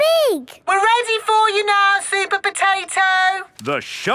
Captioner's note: through megaphone